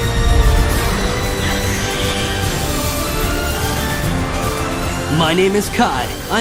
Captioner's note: wolf howls; rushing wind